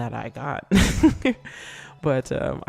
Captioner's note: laughs